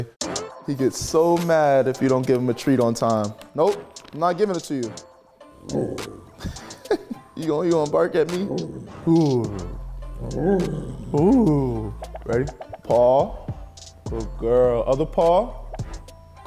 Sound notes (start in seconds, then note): 5.4 dog barking; 5.6 laughing; 8.2 dog growling